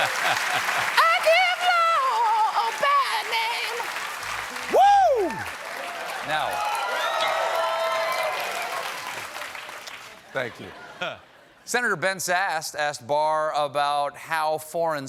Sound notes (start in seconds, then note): 6.5 applause